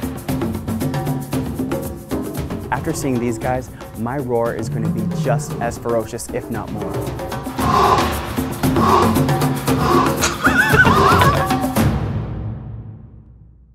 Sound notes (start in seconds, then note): 7.6 roaring; 9.8 laughing